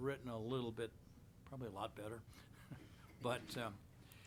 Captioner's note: chuckles